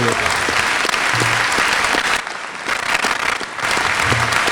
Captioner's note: applause